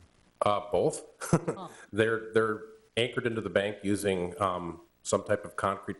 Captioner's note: chuckles